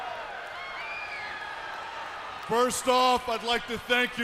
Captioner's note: crowd cheering